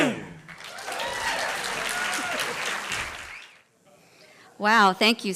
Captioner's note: applause